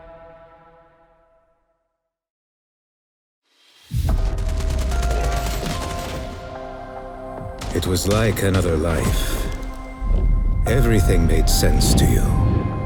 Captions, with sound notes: [music fades out] [muffled gunfire and melancholy music] It was like another life. Everything made sense to you.